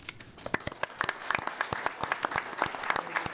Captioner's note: applause